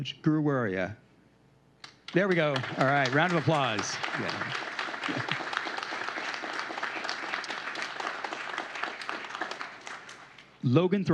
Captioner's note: applause